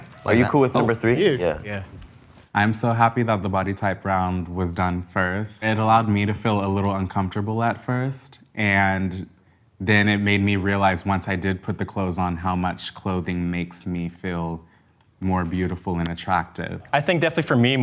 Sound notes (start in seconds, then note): none